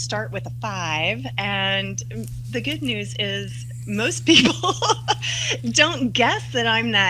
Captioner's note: laughs